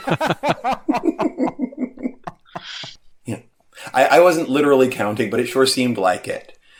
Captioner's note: laughter